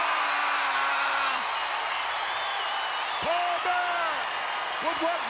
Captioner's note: applause